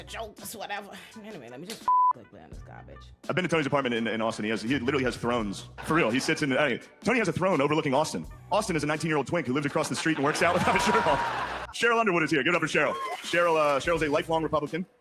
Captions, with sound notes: a joke, that's whatever. Anyway, let me just (beep) click there on this garbage. I've been to Tony's apartment in Austin. He literally has thrones, for real, he sits in, hey, Tony has a throne overlooking Austin. Austin is a 19 year old twink who lives across the street and works out with my sheriff. Cheryl Underwood is here, get up to Cheryl. Cheryl's a lifelong Republican